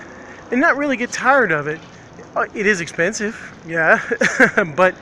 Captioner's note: laughs